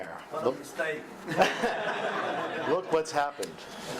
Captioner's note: audience laughing